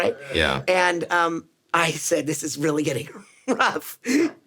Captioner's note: laughs